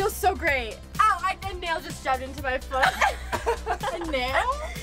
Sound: laughs

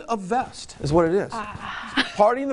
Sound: laughs

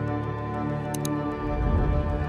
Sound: mouse click

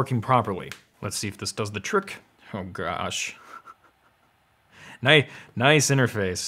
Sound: laughs

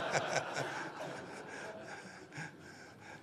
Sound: laughter

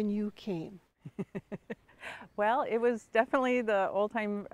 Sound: chuckles

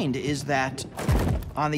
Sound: metal banging

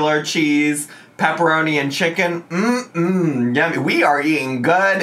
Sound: hums

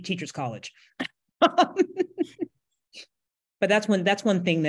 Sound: laughs

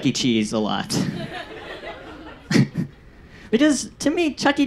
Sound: audience laughs

